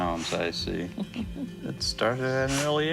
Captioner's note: chuckling